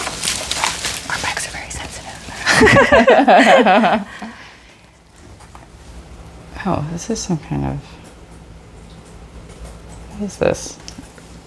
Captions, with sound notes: [whispers] Our mics are very sensitive. [laughs] Ohh, this is some kind of— What is this?